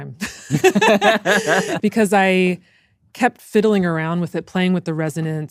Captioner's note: laughs